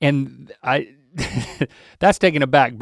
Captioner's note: Link guffaws